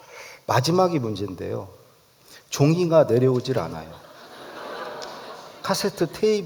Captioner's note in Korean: 웃음